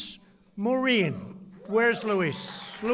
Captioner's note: applause